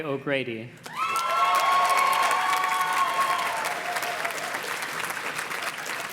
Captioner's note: audience cheers and claps